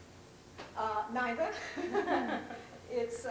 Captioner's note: laughter